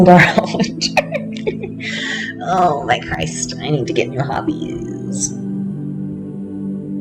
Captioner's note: laughter